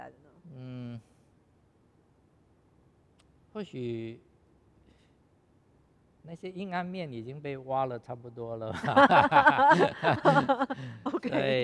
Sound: laughs

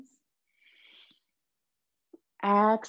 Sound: breathing in deeply

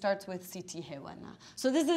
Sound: speaking in foreign language

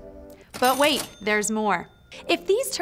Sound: cash register dings

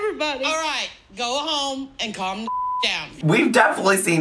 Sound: beep

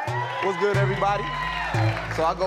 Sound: audience cheering

